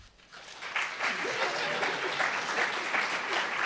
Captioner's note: applauds